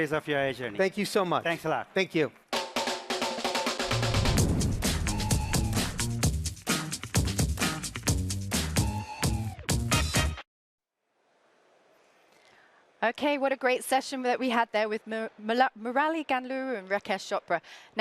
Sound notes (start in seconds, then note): 3.3 applause